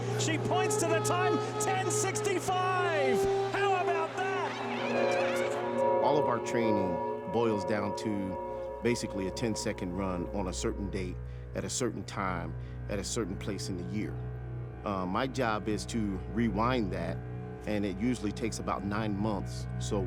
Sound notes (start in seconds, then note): 4.5 Sha'Carri yells; 5.5 deep music